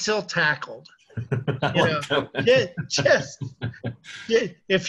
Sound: both laughing

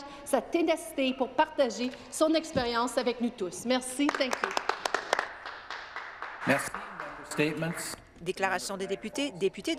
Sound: speaking French

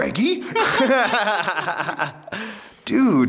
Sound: laughs

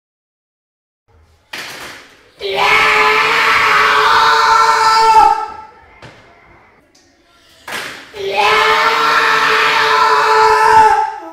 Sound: sceam

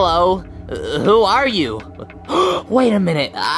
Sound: gasping

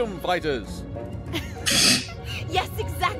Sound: scoffs; Anne and Musky laugh

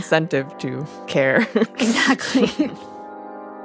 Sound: both laugh

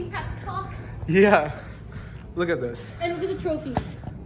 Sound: laughing

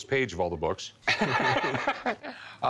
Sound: both laugh

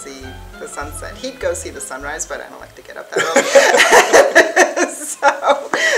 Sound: laughing

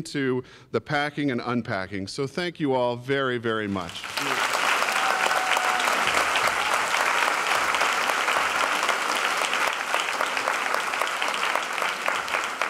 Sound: applause

